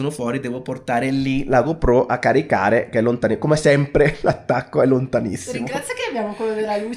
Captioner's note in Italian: risate